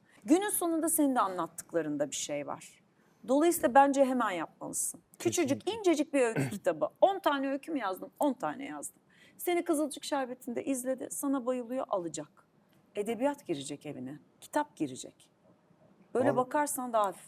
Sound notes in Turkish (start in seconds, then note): 6.3 boğazını temizler